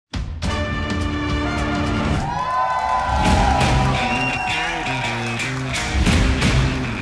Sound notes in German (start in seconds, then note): 0.0 Dynamische Klänge; 2.2 Jubel, Pfiffe; 3.0 Rockige Musik